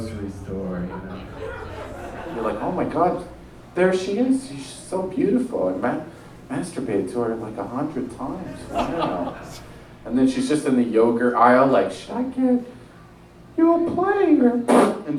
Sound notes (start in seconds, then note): 8.4 man laughs